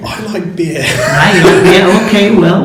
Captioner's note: laughs